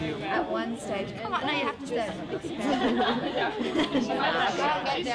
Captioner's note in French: amis bavardant